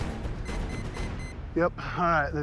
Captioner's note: GPS beeping